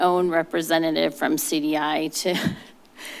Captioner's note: chuckles